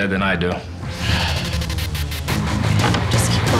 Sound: sighs

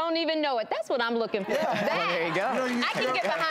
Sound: crowd cheers

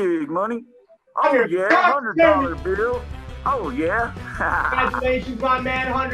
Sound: laughing

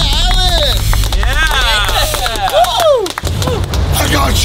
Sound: cheering

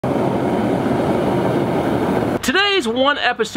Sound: fire roaring

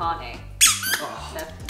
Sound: squeaks

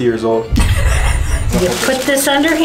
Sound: laughing

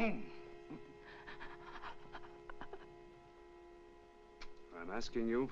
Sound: Madelon whimpers

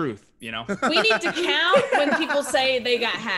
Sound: laugh

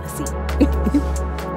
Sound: laughter

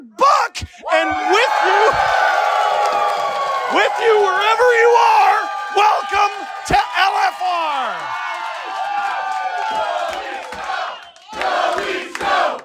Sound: Audience cheering, GO LEAFS GO chant

